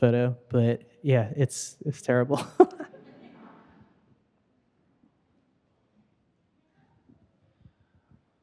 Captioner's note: laughing